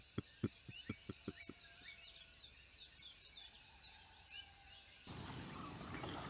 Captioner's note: birds chirping